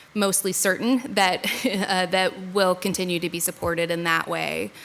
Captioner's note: laughs